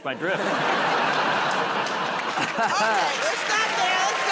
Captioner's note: laughter